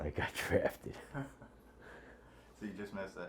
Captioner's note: laughter